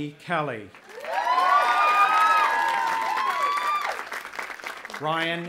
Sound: audience applauding and cheering

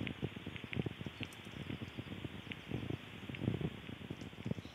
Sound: crackling continues

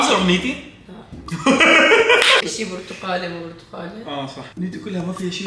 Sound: laughs

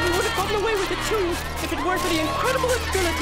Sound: crowd cheering

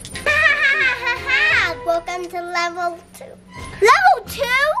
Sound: laughter

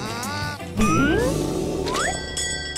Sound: stomach grumbles

